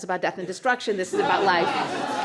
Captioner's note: laughter